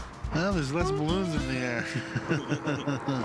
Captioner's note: chuckles